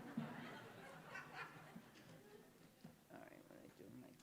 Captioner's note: scattered laughter